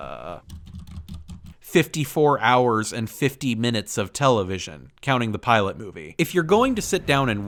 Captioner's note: furious typing